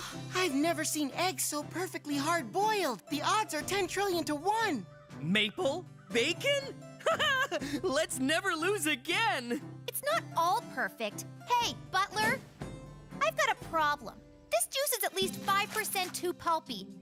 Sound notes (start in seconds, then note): 7.0 laughs